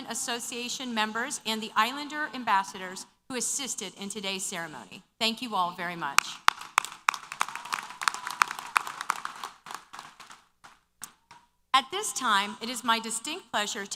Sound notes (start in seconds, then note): 6.3 applause & Cheers